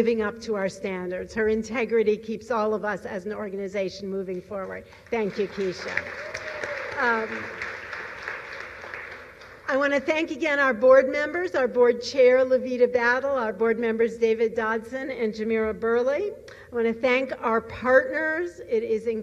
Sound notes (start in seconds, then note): 7.5 applause